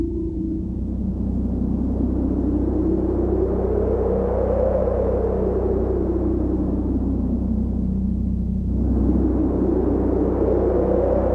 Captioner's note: wind Sounds